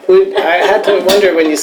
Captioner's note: laughter